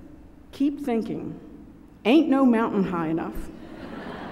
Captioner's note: laughter